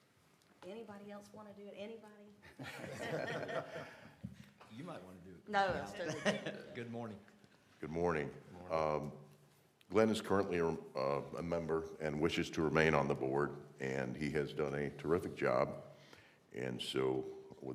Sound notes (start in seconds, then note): 2.4 laughter; 6.0 laughter